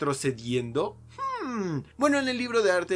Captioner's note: sexy Hmmmm